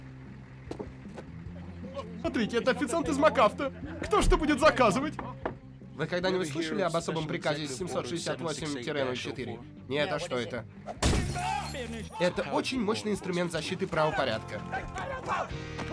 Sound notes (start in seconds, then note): 4.8 knock on window; 11.0 glass shatters